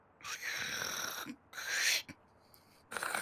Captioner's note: slurping; slurp